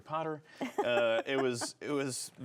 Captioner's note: laughs